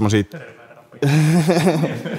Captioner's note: laughter